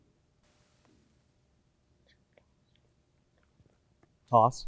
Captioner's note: team whispers